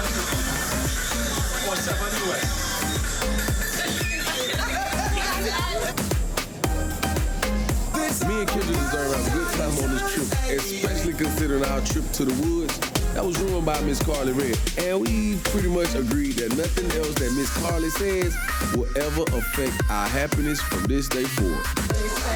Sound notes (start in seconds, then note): 4.0 group laughing